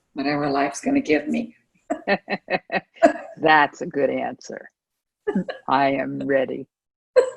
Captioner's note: laughter